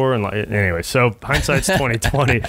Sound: laughing

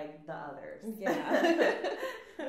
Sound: laughs

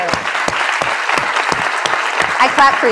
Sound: applause

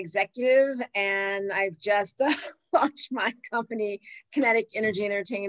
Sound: laughs

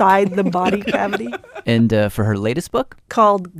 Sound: laughs

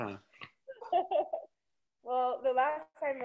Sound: laughing

